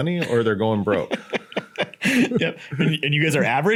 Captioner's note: laughs